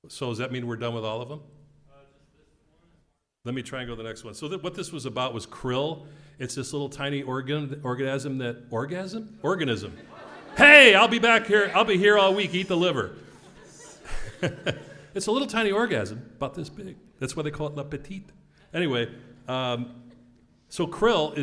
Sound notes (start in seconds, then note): 10.0 laugh